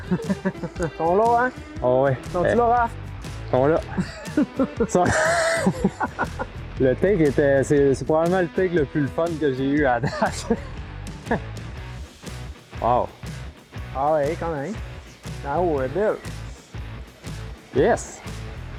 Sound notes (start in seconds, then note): 3.8 laughing